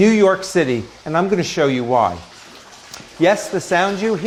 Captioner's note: water rushing